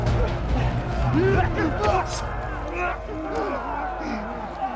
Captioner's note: shouting, groaning